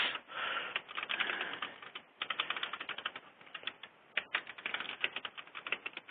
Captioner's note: typing